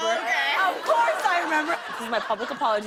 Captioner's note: laughter